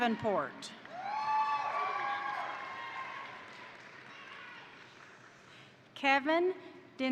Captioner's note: crowd applauding; crowd cheering